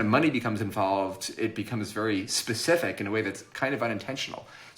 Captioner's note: none